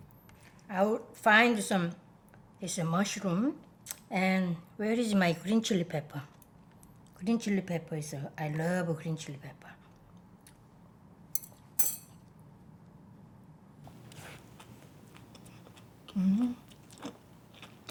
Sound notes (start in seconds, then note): 11.7 chopsticks clinking; 13.9 chewing